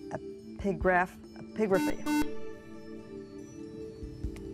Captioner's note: buzzer